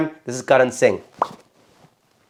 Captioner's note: popping lips